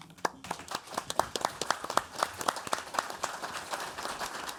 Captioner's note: audience applauds